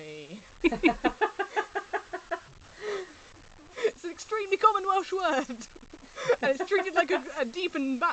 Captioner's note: laughing; laughing